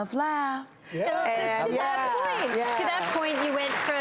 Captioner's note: audience clapping